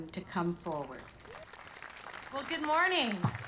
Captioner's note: audience applauding